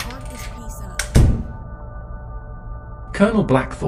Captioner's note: office door closes